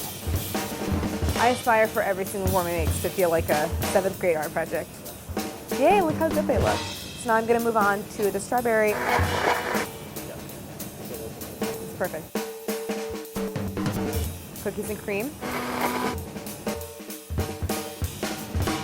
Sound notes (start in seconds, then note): 8.9 blender whirring; 9.2 jazz percussion; 15.7 jazz percussion